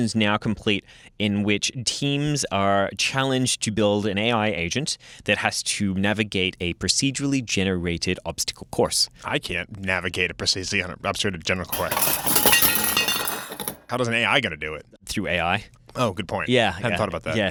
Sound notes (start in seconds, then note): 11.7 crashing